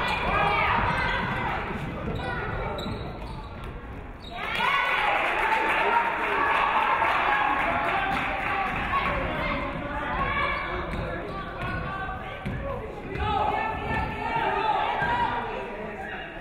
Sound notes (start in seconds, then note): 4.4 audience cheering; 4.6 audience clapping